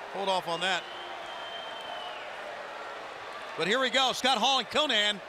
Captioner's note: crowd chatter